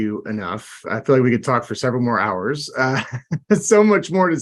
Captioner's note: laughs